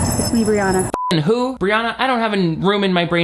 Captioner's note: beep